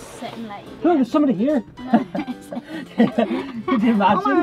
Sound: laughter

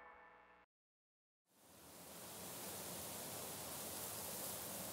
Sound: grass rustling in wind

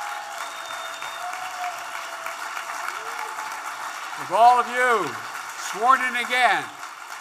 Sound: applause

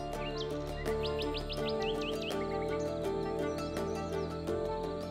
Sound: birds chirping

